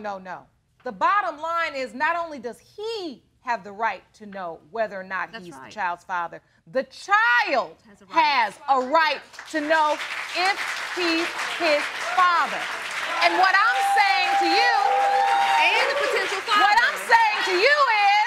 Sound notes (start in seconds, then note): 10.4 audience cheering